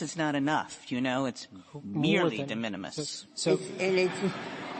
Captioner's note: laughter